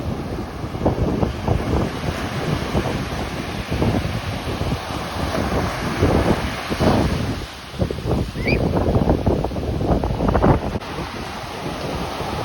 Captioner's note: waves + wind